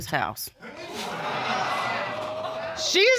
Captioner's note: audience exclaims